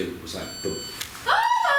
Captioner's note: device beeps